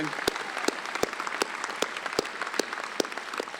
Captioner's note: applause